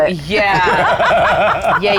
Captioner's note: laughing